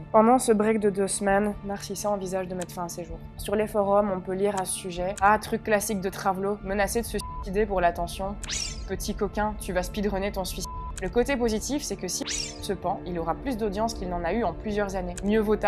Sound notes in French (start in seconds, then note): 10.4 bip